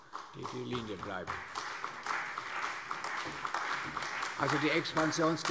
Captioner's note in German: Beifall